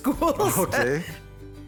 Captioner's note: laughs